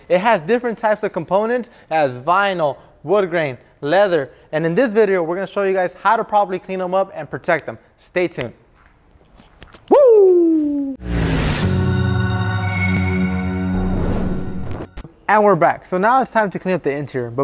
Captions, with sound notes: It has different types of components, it has vinyl, wood grain, leather, and in this video, we're going to show you guys how to properly clean them up and protect them. Stay tuned. Whoo! (whooshing) (humming) And we're back. So now, it's time to clean up the interior,